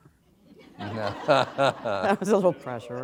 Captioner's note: laughter